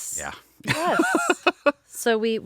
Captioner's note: laughing